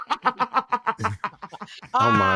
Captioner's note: laughter